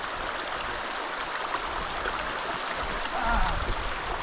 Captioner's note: water trickling